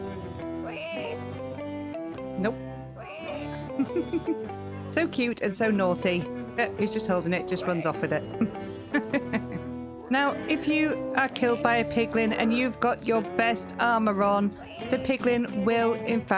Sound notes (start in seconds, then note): 3.0 laughing; 9.5 laughing